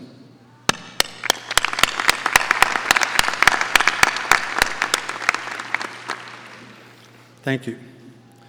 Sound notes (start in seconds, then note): 0.8 audience applauding